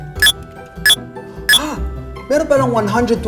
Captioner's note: MindBower beeps